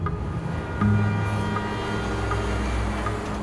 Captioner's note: traffic drones, horn blares